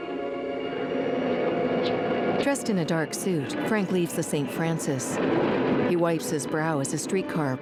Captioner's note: street din